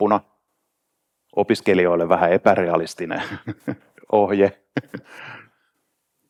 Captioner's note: laughs